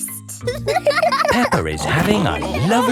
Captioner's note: giggles; laughing